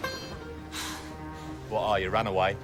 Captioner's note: sighs